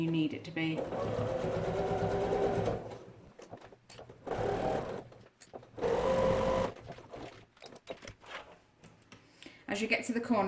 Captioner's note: sound of sewing machine